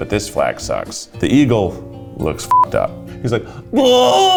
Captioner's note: beep; groaning